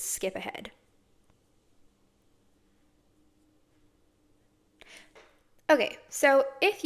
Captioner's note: silence